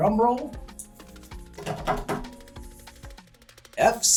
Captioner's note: does drum roll on table